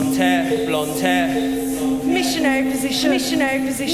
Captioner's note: voices continue to echo and repeat